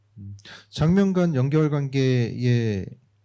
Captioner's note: speaking korean